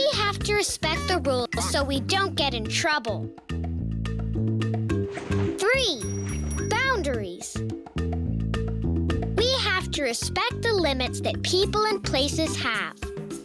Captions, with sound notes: We have to respect the rules so we don't get in trouble. Three. (bell ringing) Boundaries. We have to respect the limits that people and places have.